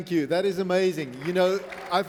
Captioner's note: applause